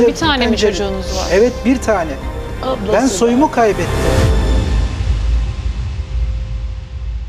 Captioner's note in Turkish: homurdanır